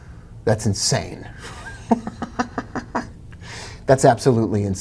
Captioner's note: giggling